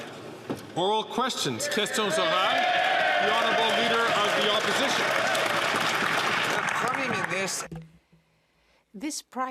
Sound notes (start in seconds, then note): 5.9 speaking French; 8.0 some Applause